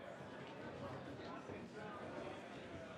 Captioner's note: none